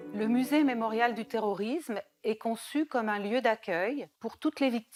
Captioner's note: speaking in foreign language